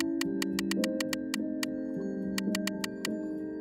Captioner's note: clicking